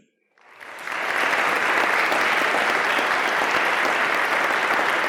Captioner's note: attendees applauding